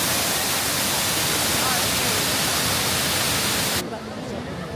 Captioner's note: waterfall cascading